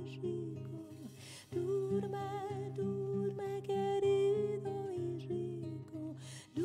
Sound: at a whisper

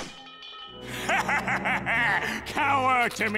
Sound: laughing maniacally

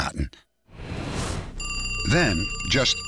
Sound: phone ringing

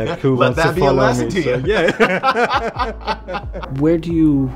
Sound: laughing

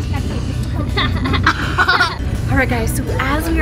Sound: children laugh

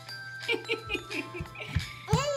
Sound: laughing

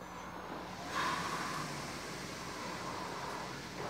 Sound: machine whirring

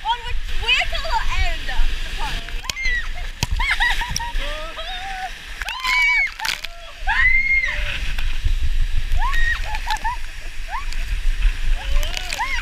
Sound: water Splashing

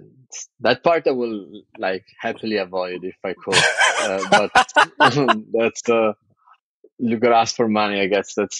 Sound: <Laugh>

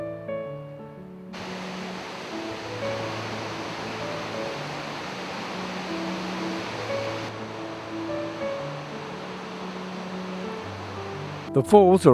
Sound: waterfall sounds

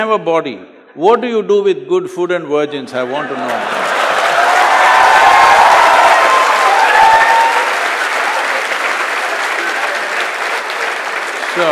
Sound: laughter/Applause/Cheers

